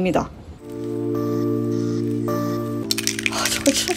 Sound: spraying lacquer

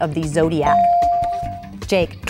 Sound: bell dinging

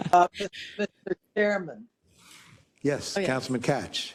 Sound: laugh

